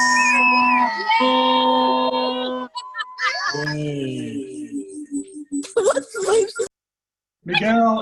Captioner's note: cheering